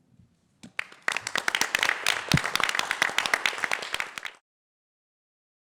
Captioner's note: applause